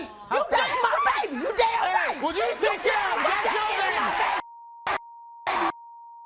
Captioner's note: screaming and swearing